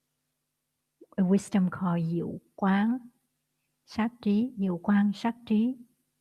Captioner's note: Vietnamese